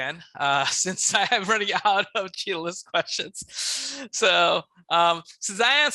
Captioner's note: chuckles